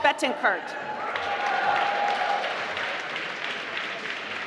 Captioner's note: applause